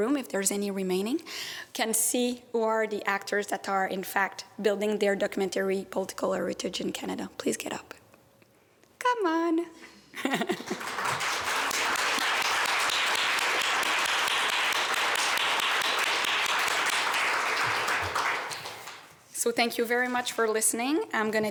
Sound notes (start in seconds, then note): 10.2 laughs; 10.4 applause